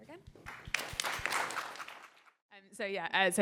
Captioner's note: applause